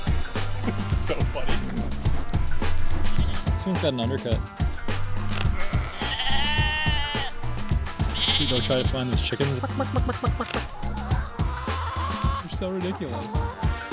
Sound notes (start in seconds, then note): 4.4 sheep sounds in the background